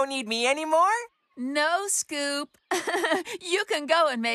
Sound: laughs

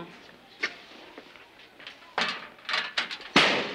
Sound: lockers slams

